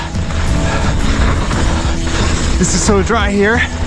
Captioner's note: breathing heavily